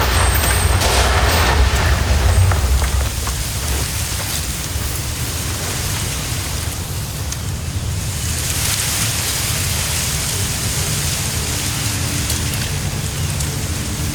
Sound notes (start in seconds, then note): 0.0 screeching roar; 0.0 wind howling; 1.4 birds chirping in distance